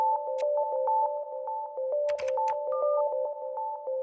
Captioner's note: sonidos de teclado